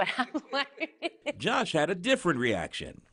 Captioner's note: laughter